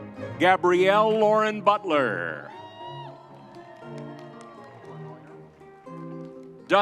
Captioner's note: crowd cheering